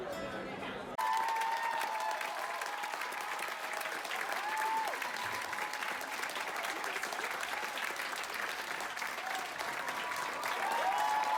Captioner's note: cheering & clapping